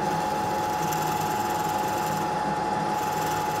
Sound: machine rattles

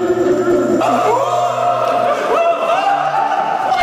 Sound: so much yelling and shouting going on

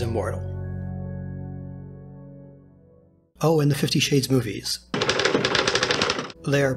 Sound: typing

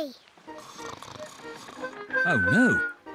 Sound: snores

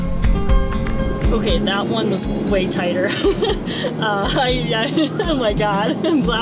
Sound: laughs

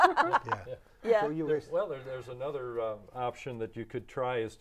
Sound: laughing

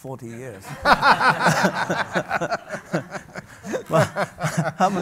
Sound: audience laughs

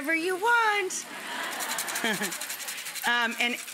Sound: audience and Rachael laughing in unison

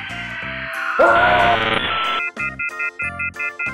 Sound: Boss screams

